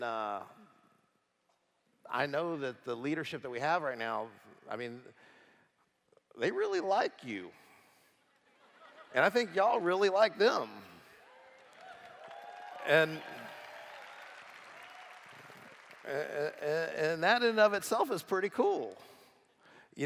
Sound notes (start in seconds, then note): 13.7 applause